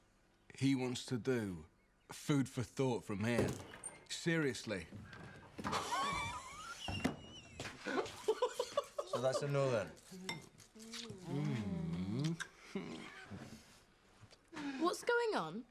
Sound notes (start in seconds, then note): 5.3 laughs; 11.1 Loz moaning; 11.1 Shauna moaning